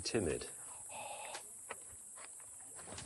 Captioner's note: he gasps